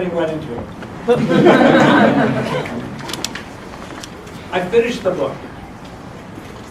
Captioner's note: laugh